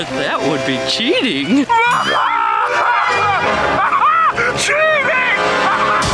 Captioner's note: Patrick laughing